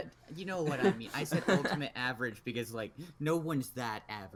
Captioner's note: laughs